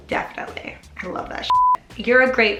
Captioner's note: beep